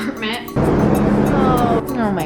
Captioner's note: helicopter sound